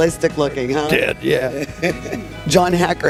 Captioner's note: laughs